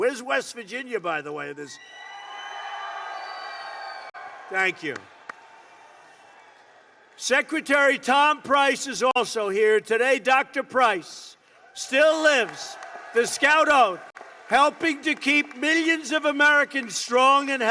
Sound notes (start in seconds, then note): 2.3 applause